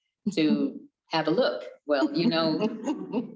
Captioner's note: chuckles